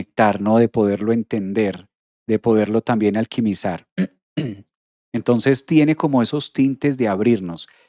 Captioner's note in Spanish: carraspeo